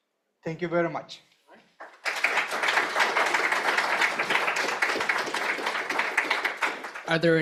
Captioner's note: applause